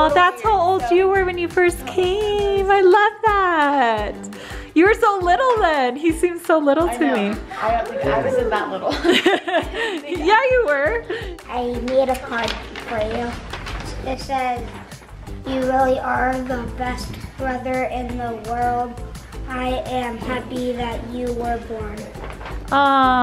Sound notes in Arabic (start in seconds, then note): 8.9 ضحكات خافتة